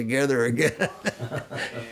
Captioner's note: laughs